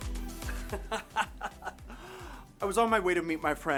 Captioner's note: laughter